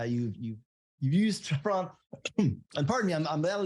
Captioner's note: coughs